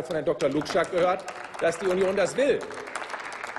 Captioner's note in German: Applaus